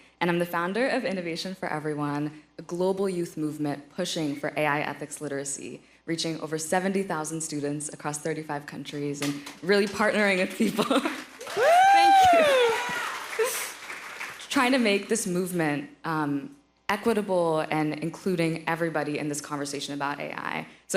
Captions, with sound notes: And I'm the founder of Innovation for Everyone, a global youth movement pushing for AI ethics literacy, reaching over 70,000 students across 35 countries and really partnering with people - - Whoo! - Thank you. (laughs) - Yeah! (audience applauding) - Trying to make this movement equitable and including everybody in this conversation about AI.